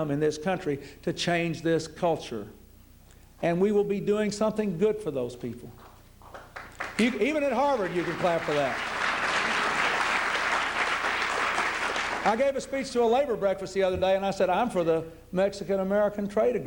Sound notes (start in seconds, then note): 9.5 applause